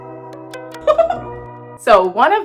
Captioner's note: laughing